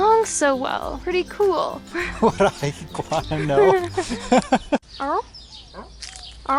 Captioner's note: laughter